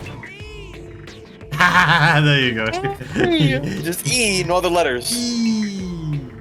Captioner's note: laughs